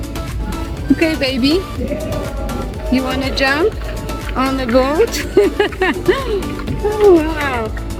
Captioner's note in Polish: śmiech